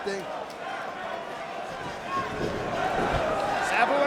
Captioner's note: spectators cheering